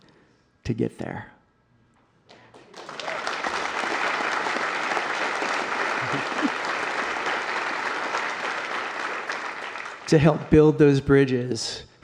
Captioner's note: applause